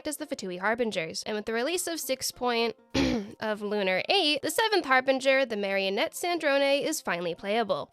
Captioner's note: clears throat